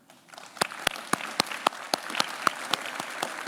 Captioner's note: applause